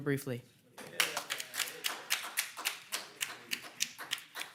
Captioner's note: audience applauds